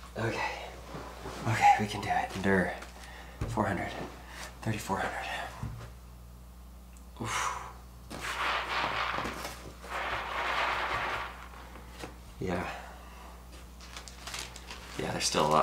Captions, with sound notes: Okay, okay, we can do it, endure. 400, 3,400. (exhales sharply) (beads rustling) Yeah, there's still a lot in there.